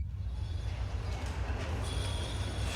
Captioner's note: city ambience